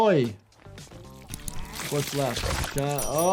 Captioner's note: blood sloshes